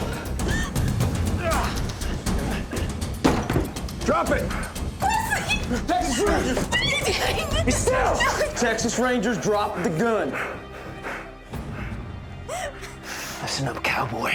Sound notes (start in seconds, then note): 1.3 grunting; 3.2 door slams open; 7.3 crying